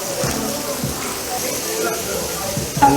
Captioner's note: sizzle Sizzle